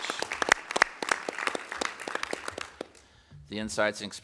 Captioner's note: applause